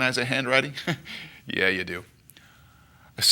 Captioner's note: chuckles